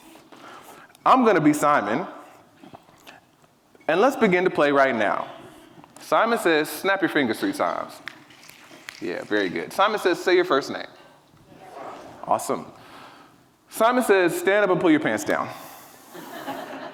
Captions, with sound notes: I'm gonna be Simon, and let's begin to play right now. Simon says, snap your fingers three times. (fingers snapping) Yeah, very good. Simon says, say your first name. (people murmuring) Awesome. Simon says, stand up and pull your pants down.